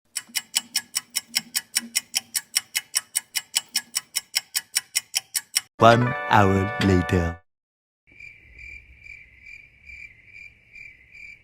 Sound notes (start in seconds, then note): 0.1 ticking sound